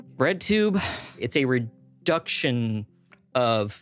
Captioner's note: sighs